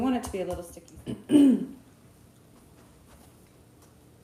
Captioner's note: clears throat